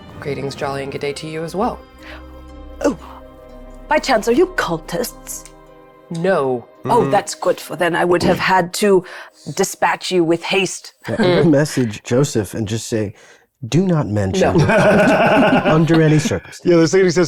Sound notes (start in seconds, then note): 14.3 laughing